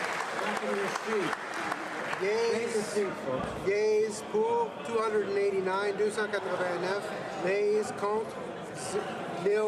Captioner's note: applause